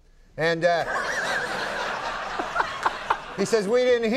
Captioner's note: audience laughing